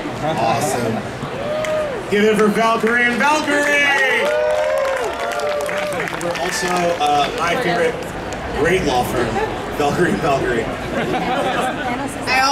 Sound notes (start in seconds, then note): 3.5 audience cheering